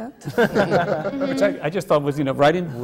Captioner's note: laughter